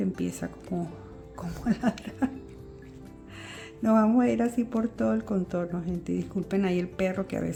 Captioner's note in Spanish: risas